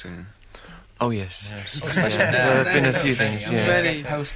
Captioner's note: general agreement